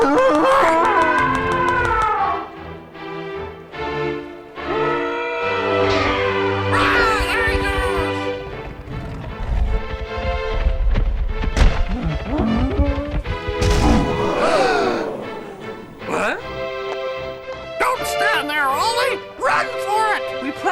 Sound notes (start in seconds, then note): 0.9 大象叫声